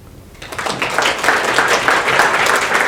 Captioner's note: applause